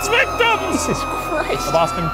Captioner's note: people screaming